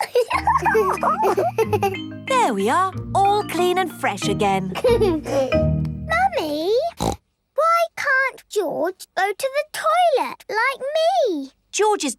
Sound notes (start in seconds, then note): 0.0 giggles; 4.7 giggles; 6.9 snorts